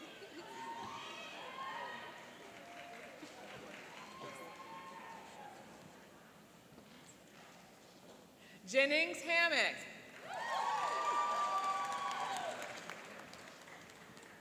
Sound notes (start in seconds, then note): 3.5 cheering; 10.1 cheering and applauding